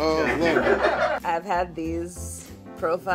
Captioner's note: people laughing